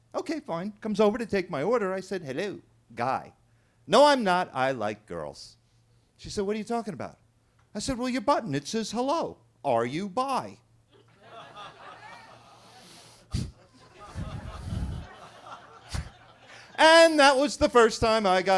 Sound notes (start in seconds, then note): 10.9 everybody laughing